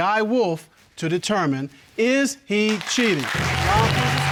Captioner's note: audience applauds